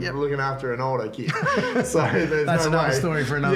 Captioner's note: laughs